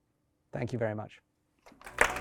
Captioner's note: applause